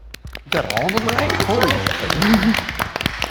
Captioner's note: group claps